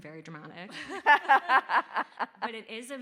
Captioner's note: all laughing